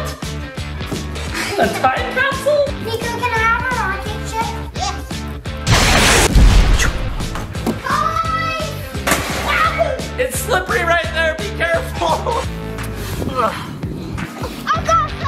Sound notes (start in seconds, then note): 5.6 rocket blasts; 13.6 dad grunts